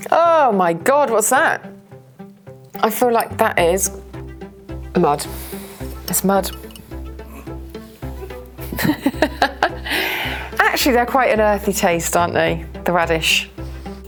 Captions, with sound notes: Oh my God, what's that? I feel like that is... ...mud. It's mud. [Laughs] Actually, they're quite an earthy taste, aren't they? The radish.